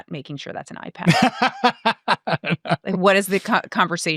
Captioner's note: laughing